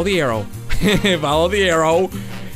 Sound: chuckles

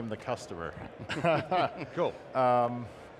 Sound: chuckling

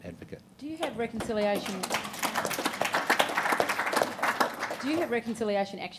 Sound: audience applauding

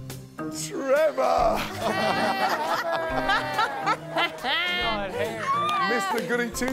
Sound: laughter

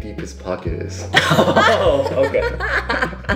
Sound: everyone laughs

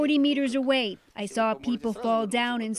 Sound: speaking alternate language

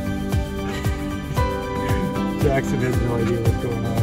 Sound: father laughs

